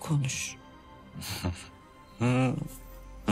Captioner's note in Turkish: Gülüyor